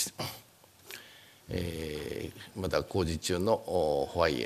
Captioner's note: speaking japanese